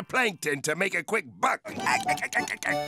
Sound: laughing

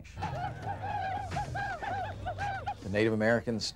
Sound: native American War Cries

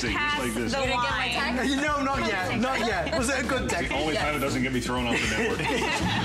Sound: laughter

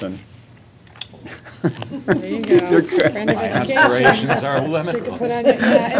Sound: laughter

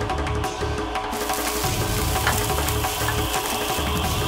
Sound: rustling

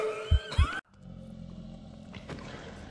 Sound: monster growls

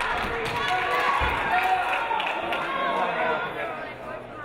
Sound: audience applauding

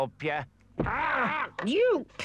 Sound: crutch thumps; Chief Weasel yelps

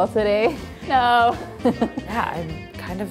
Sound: laughs

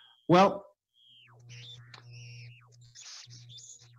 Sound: electrical Sounds

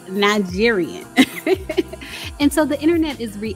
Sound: lightly chuckles

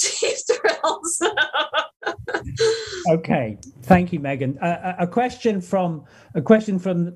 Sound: laughter

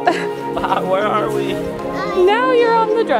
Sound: laughs

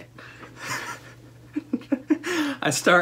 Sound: laughter

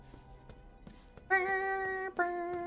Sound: humming

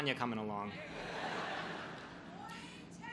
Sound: crowd laughs

